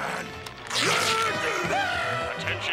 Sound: screaming

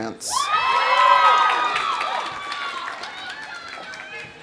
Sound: audience cheering; audience applauding

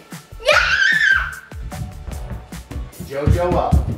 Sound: screams

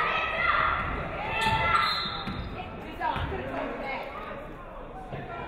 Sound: referee whistles

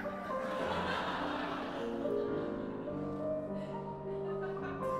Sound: audience Laughter

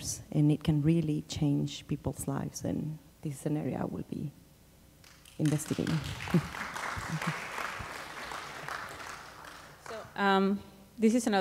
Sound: applause

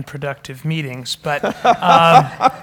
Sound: laugh

